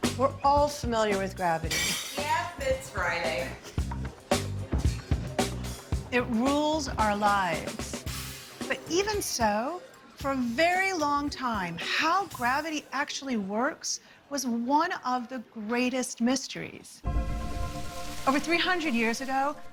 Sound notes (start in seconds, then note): 1.7 plates crash